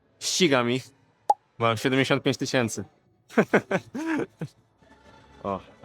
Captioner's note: laughter